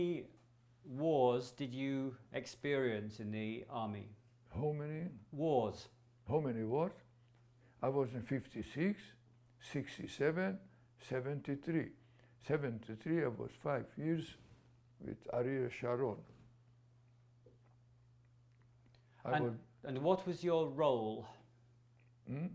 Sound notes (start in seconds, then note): 16.6 pauses for 3 seconds